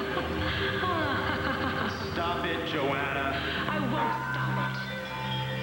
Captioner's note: joanna laughs